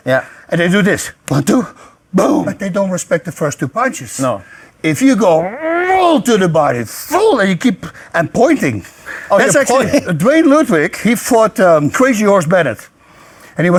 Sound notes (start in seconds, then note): 5.6 growls